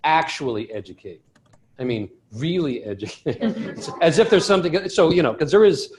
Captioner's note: laughter